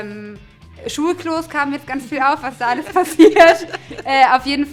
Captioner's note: laughter